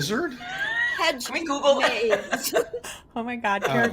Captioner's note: laughs